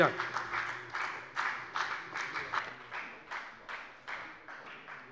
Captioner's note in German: Beifall bei der FDP